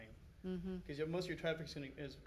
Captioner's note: humming affirmatively